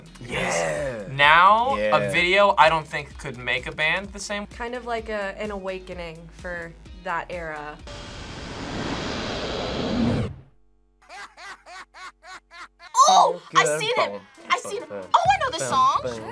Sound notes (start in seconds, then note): 11.0 man laughs